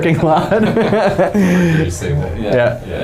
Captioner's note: men laughing